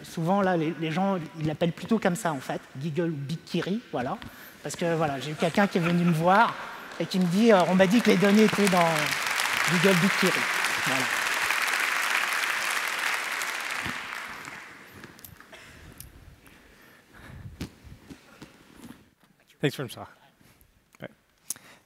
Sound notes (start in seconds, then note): 8.7 applause